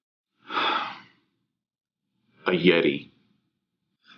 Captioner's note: sighs